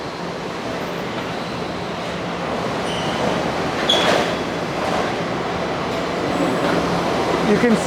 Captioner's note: factory noises